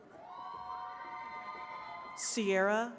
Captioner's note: attendees cheering